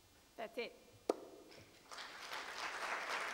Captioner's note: applause